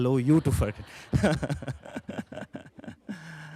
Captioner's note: laughter